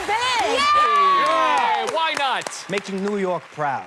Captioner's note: cheering